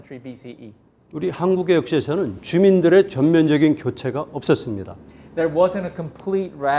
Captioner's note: speaking in Korean